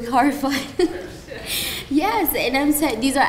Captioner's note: laughs